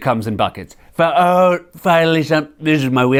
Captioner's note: As Trump